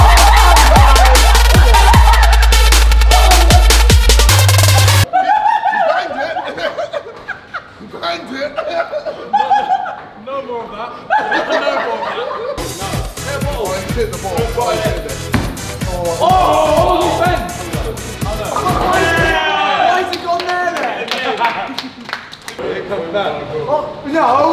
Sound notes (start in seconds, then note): 0.0 lads screaming and cheering; 13.8 lads shouting; 20.0 lads applauding